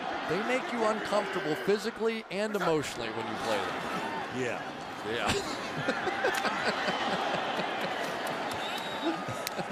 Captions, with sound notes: And they make you uncomfortable physically and emotionally when you play them. Yeah. Yeah. [laughs]